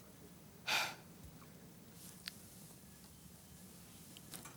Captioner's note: Jodie sighs